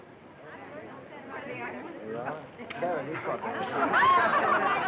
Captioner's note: chatter